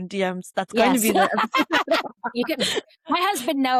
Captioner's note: laughter